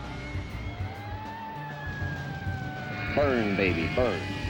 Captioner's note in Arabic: صافرة الإنذار تدوي